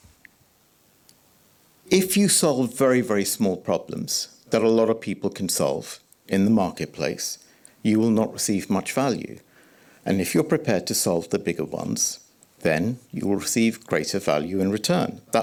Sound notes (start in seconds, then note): none